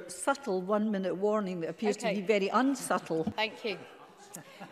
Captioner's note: laughter